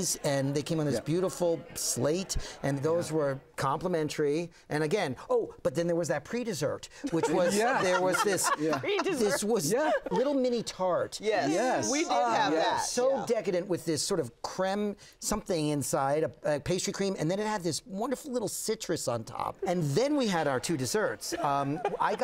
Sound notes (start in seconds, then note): 7.0 laughter